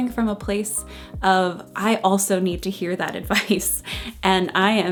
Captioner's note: chuckles